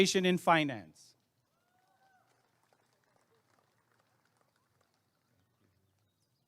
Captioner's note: applause and cheering